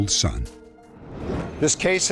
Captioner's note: whoosh